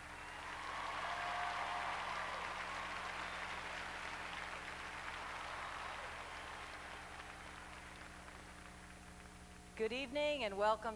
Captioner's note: crowd cheering